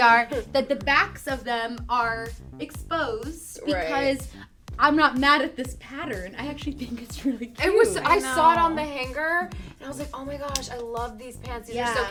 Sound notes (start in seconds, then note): 7.7 laughs